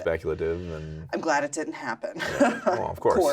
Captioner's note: laughs